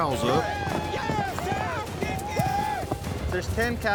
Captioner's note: cowboys shout encouragement